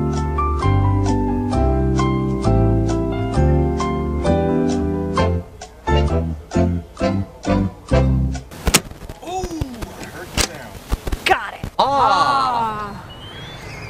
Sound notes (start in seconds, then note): 8.4 click